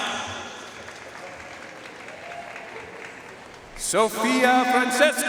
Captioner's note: audience cheering and applauding